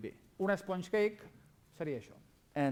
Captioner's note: non-english speech